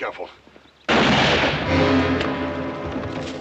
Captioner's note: gunshot